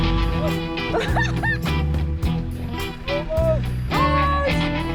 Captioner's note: laughing